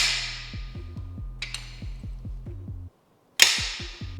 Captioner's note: clicking